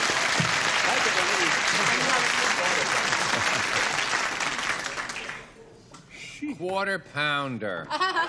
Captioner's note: applause